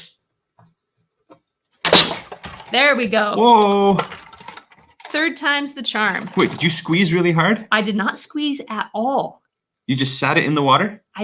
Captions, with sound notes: (can crunches) There we go! - Whoa! - Third time's the charm. - Wait, did you squeeze really hard? - I did not squeeze at all. - You just sat it in the water.